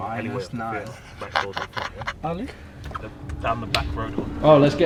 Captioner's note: laughs